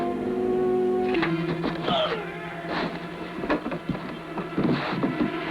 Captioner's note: Harris grunting